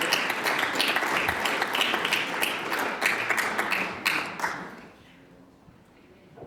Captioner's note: applause